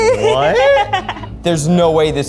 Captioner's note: laughs